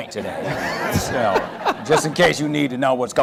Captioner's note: audience laughter